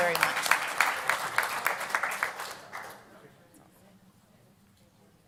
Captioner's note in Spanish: Aplausos